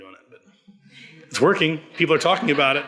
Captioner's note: audience laughs